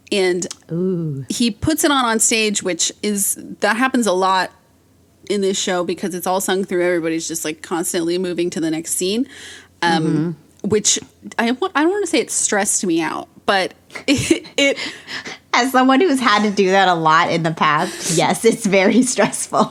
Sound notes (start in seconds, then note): 14.9 laughs